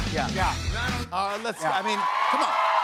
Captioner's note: cheers and applause